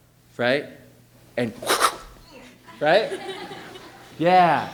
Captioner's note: makes whooshing sound; laughing